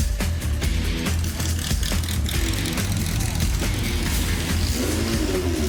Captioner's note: energetic rock music; engine growling